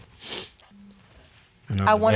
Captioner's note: sniffles